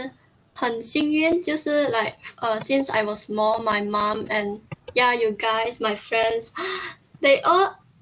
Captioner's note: gasp